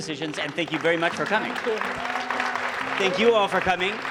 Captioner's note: applause